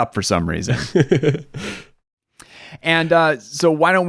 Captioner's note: laughs